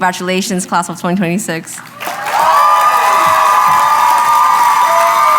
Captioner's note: applause